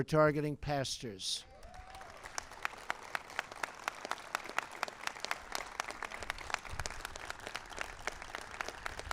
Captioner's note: applause